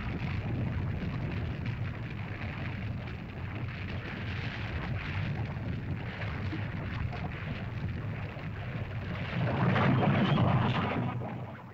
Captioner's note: lava bubbles & flows